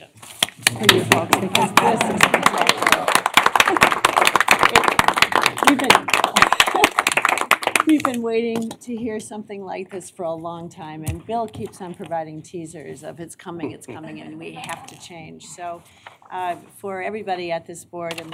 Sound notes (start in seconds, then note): 2.8 applause